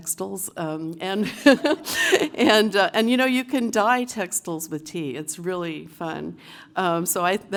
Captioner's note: laugh